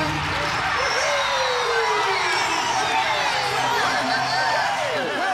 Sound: cheering & Applause

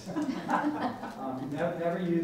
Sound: laughing

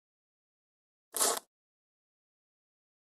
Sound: sound of paper

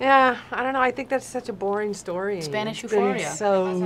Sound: none

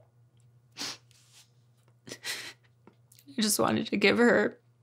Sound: sniffles

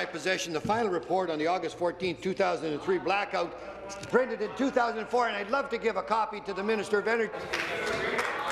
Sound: applause

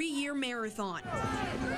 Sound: NAT- protest/chant

